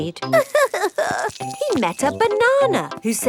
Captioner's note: crying